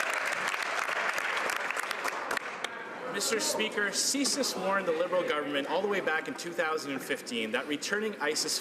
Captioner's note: some Applause